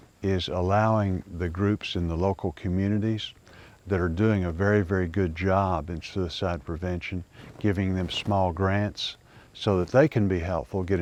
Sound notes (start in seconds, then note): none